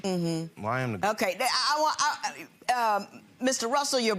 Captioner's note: stammering